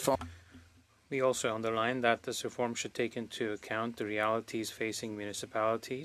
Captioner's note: speaking French